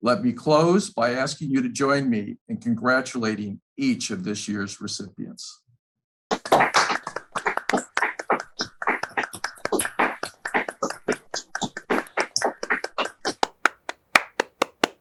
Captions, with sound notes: Let me close by asking you to join me in congratulating each of this year's recipients. (group applauds)